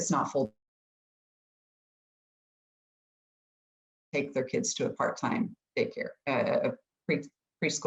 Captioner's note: audio cuts out